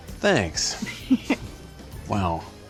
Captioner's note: giggles